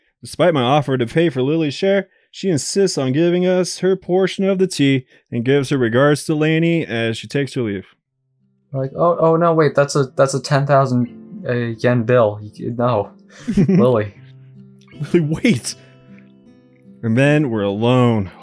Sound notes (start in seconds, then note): 13.4 giggles